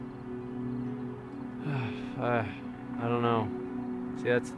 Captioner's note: sighs